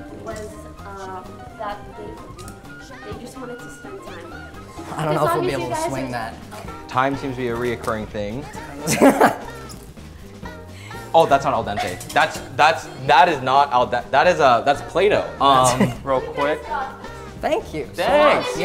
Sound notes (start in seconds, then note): 8.4 laughing